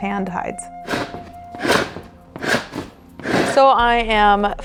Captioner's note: scraping of animal hide